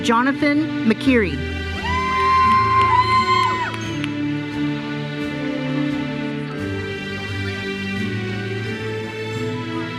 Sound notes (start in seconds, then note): 1.8 audience cheers and applauds